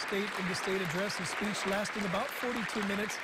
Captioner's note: applause